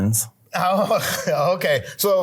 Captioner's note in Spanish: risas